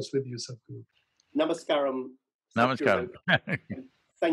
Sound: laughs

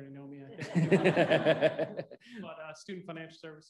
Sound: all laughing

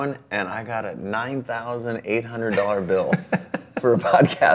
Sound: laughs

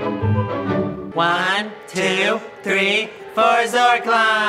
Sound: in Unison

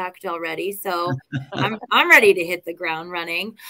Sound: laughter

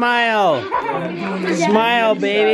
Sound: background chatter

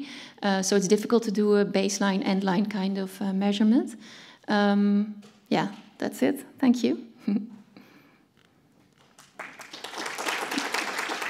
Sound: applause

